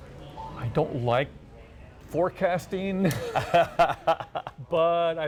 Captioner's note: laughs